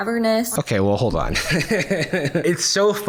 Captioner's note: laughs